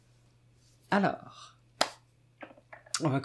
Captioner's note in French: clap